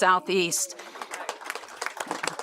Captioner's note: applause